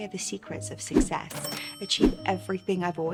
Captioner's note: money chimes